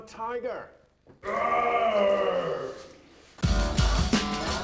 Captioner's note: roars